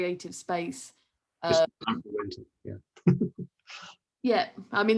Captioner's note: laughs